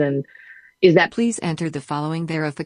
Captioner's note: automated Voice